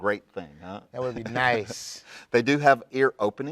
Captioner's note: Mr. Bare Hands laughs